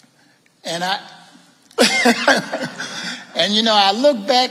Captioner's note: laughing